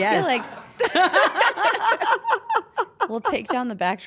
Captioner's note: laugh